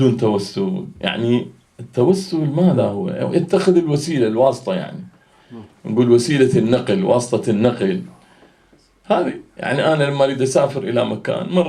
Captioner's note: in Arabic